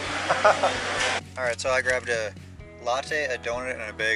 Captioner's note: laughter